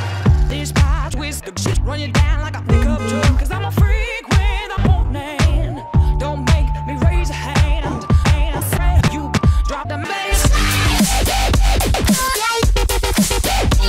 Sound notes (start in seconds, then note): 2.7 car honks & "vroom vroom" sound effects